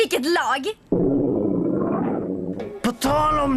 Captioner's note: rumbling